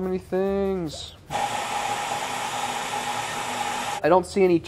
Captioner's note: blender whirring